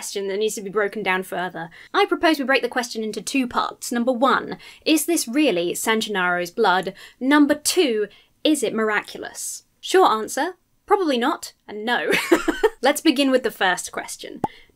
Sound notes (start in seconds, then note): 12.1 laughs